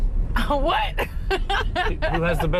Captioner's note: laughing